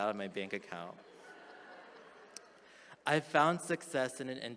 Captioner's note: attendees chuckle